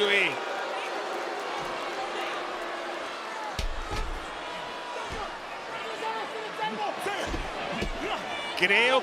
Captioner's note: applause